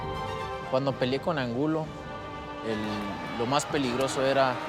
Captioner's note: speaking Spanish